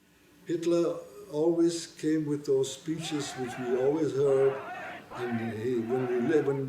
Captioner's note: crowd noise